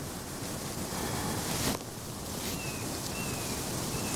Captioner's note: bird singing